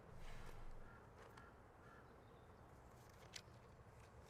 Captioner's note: birds squawking